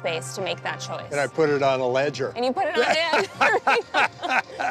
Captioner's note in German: lacht